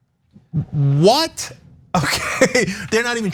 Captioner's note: laugh